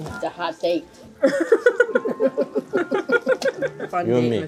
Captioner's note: laughter